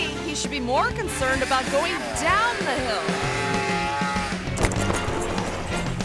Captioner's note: engine revving